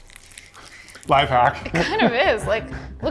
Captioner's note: laughs